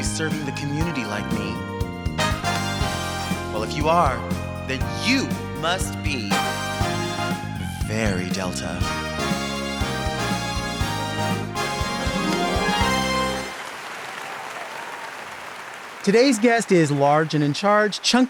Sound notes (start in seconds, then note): 9.5 lively music; 13.9 audience applauding